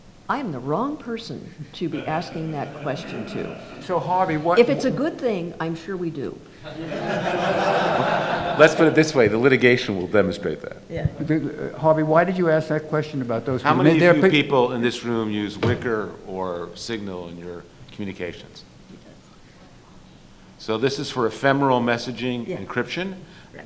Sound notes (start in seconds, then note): 6.6 audience laughs